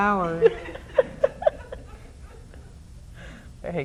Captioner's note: laughs